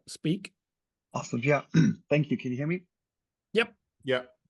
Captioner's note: cough